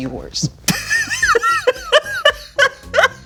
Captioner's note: laughing